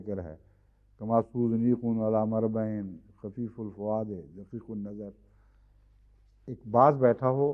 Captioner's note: Arabic